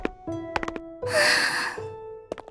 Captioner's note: sigh